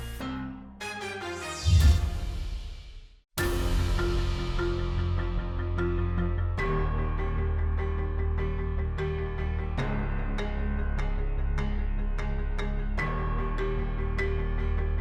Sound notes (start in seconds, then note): 0.0 dramatic music; 1.5 logo whooshing